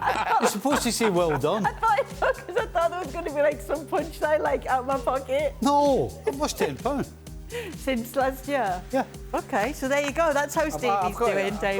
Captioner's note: laughter